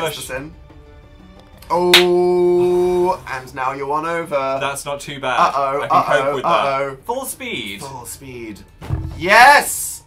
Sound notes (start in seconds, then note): 1.9 claps